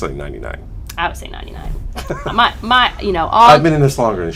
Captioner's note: laughter